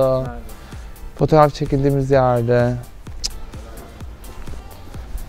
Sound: clicks tongue

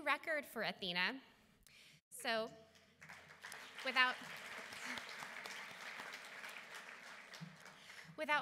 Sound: applause

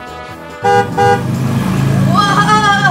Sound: car honking

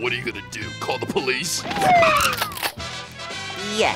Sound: sirens blaring

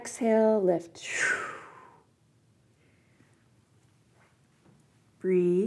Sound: exhales

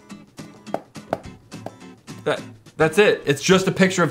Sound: taps on screen

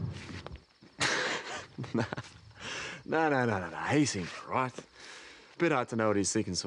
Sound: laughs

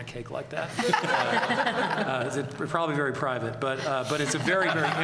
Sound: laughter

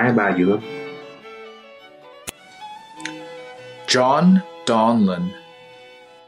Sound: non-english speech

